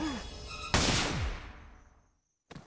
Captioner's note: gun fires